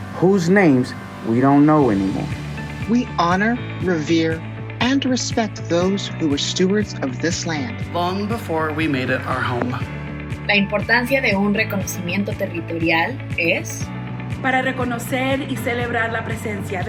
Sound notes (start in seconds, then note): 10.5 people speaking Spanish; 14.2 upbeat music